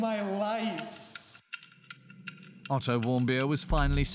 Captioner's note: clock ticking